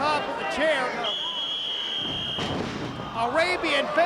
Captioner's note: whistling